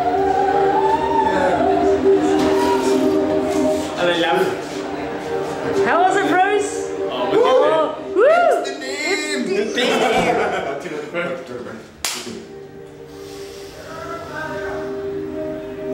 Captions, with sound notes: (HIGH-PITCHED VOICE ECHOES) - (BLOWS RASPBERRY) 'Ello, love. - How was it, Bruce? Whoo! - Oh, wicked, man. - Amsterdam! (ALL LAUGH) - Oh, tino pai, bro. - Oh, chur, bro.